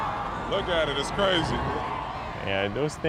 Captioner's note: cheers and Applause